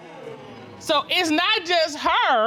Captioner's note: audience exclaims